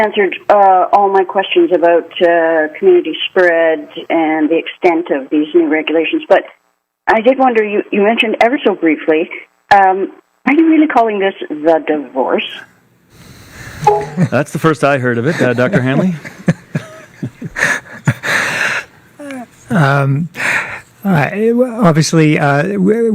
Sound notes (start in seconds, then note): 14.1 laughter